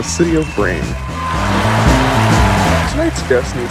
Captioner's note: cheering and applause